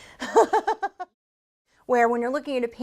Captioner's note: laughter